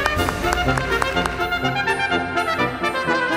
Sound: cheering and applause

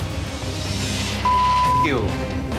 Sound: beep

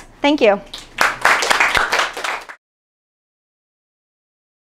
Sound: audience applauding

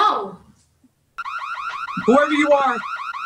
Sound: alarm sounding

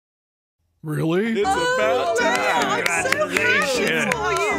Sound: overlapping happy, congratulatory voices

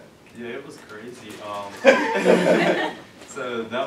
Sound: laughs

